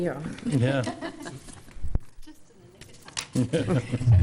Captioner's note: people laughing